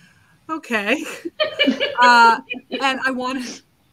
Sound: panelists laughing

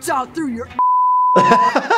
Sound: beep; laughs

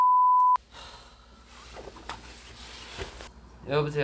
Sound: it's a sigh

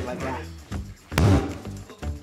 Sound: loud bang

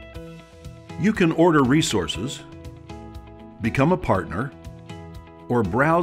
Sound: voiceover

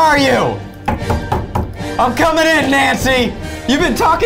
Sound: knocks

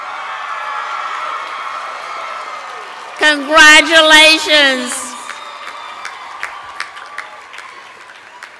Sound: cheers and applause

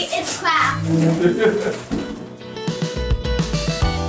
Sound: laughs; upbeat music

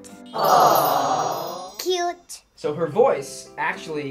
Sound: crowd

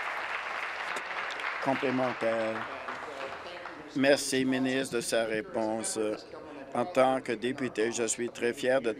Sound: applause

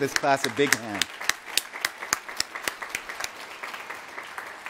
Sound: applause

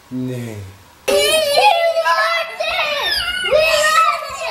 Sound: kids squealing

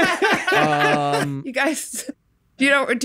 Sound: group laughs

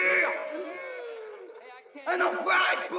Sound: men hooting

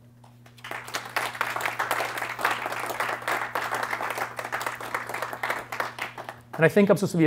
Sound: applause

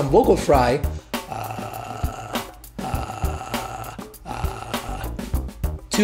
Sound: vocal fry

